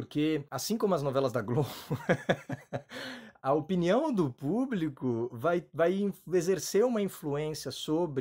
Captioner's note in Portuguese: risos